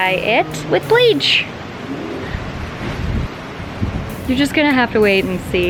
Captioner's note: wind blows